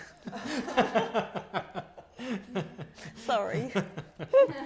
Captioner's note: laughing